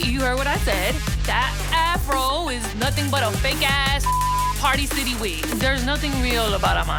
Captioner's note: beep